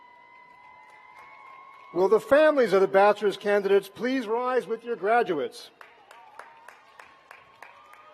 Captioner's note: cheers